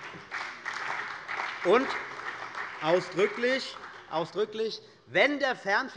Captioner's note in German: Beifall bei der CDU und dem BÜNDNIS 90/DIE GRÜNEN